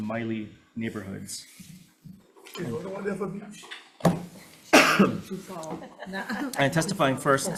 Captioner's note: people laughing